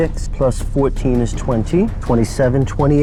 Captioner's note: die rattling